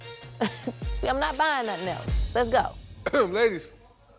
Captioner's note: scoffs